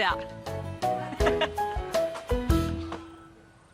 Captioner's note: laughs